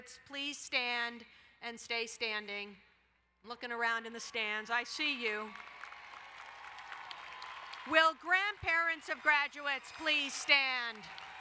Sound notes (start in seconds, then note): 5.6 graduates cheering; 7.6 applauding; 11.2 crowd cheering and applauding